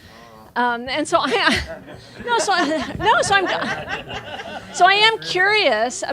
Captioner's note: laughing